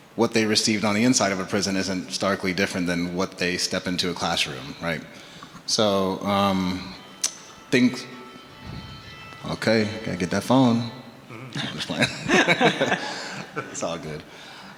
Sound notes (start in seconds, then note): 7.4 phone ringing; 11.4 everyone laughing